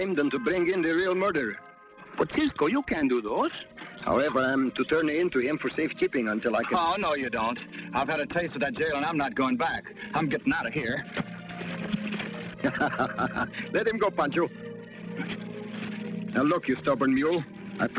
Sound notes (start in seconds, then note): 12.3 laughs